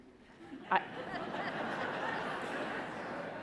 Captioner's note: laughing